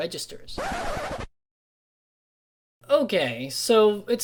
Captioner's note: record scratch